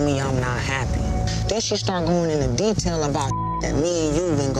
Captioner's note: beep